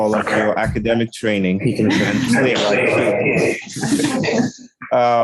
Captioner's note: indistinct conversation